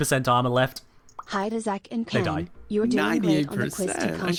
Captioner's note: text to speech voice